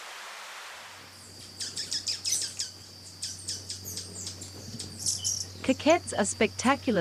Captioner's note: birds chirping